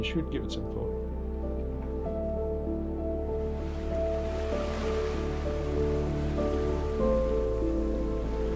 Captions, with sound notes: you should give it some thought. (calm music) (water splashing)